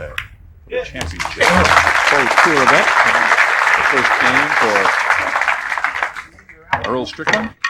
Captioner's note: applause